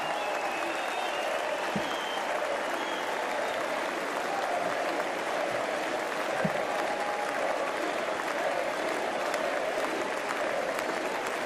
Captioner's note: applause